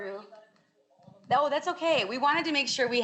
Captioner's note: woman speaks faintly